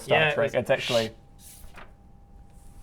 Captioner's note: papery door sound